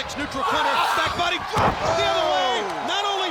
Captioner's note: body thudding